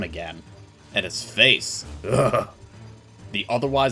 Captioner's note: shudder